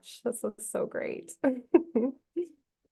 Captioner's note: chuckles